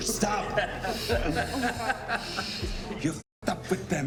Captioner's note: all laughing